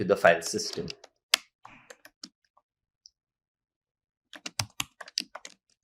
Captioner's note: keystrokes clicking